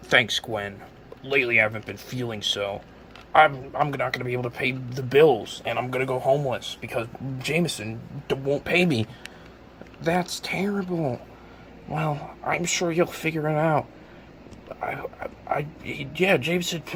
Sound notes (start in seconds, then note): 14.6 nervous stammering